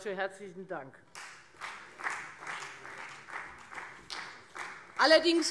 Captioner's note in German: Beifall Freie Demokraten